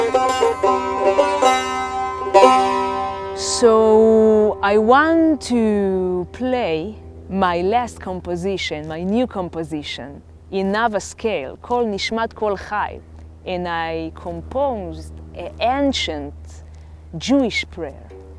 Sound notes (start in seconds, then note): 11.9 speaks Hebrew